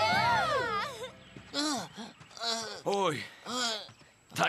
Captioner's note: breathing heavily